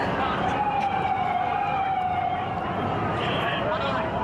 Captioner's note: siren blaring